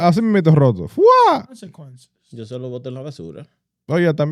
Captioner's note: speaking In Foreign Language